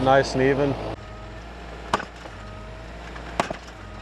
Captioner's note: machine knocks